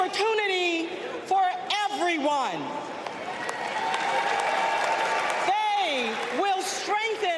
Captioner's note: applause